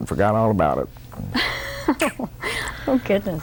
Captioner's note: laughter